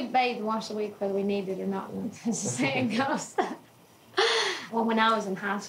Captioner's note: laughing